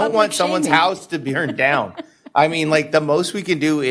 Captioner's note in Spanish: risas